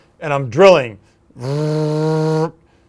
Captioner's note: drill sound